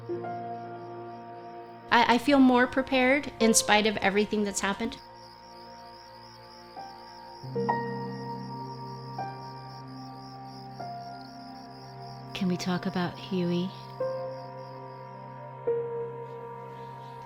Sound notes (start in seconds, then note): 5.9 gentle music; 8.6 crickets